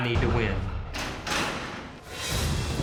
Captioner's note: gates clank open; hoofbeats